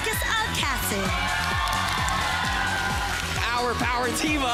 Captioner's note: crowd screams